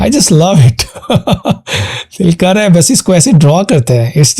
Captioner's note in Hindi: हंसी